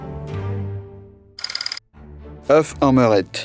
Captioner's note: slide rolling